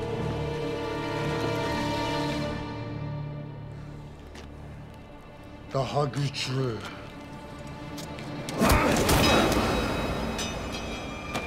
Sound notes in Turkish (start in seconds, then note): 0.0 Müzik - Gerilim; 8.4 Darp sesleri